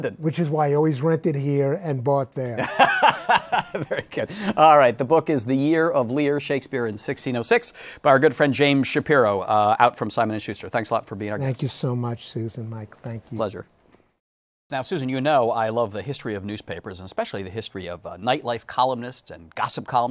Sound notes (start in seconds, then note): 2.6 laughs